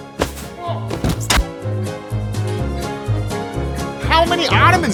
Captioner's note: Ben groans